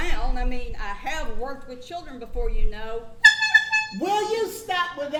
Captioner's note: honks horn